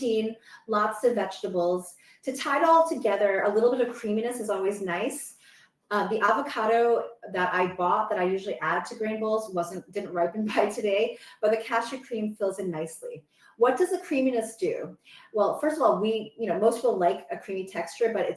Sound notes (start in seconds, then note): none